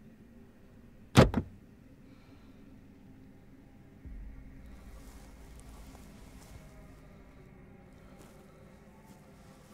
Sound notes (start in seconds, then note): 1.2 trunk unlocks